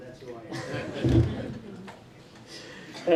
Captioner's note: laughing